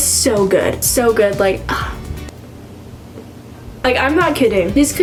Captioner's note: sighs